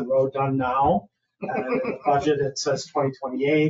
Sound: people chuckle

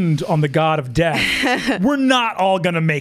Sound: laughs

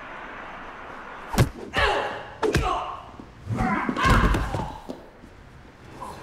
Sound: hits and grunts

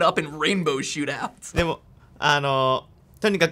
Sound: speaking Japanese

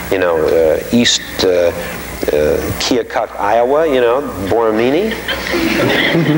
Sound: audience laughing

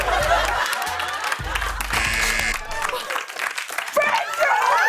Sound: applause; buzzer

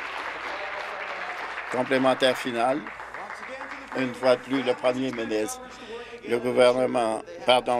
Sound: applause

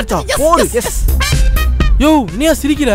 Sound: laughs

